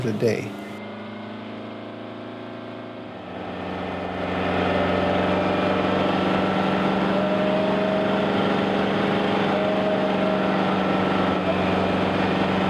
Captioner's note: machinery running